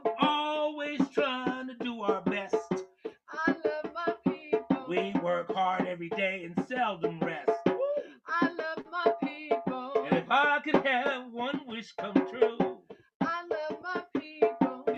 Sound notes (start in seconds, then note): 2.6 singing; 7.6 whew!; 8.0 singing; 12.6 singing